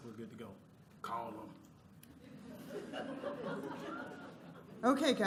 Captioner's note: laughter